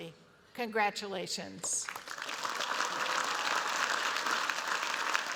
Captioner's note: applause